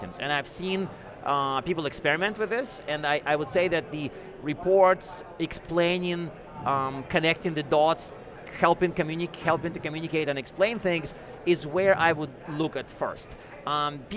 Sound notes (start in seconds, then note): none